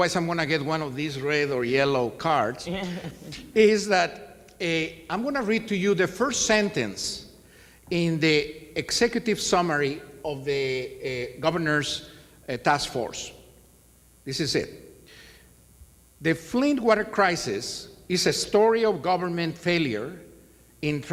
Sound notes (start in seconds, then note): 2.6 laughs